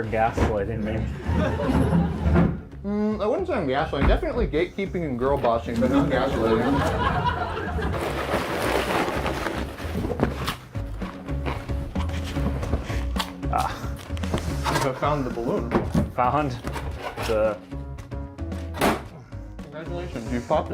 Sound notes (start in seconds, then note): 0.9 audience laughter; 7.7 rustling chips